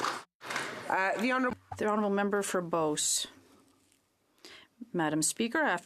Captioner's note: some Applause